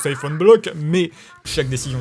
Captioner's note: haha